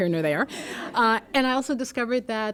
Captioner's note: laughter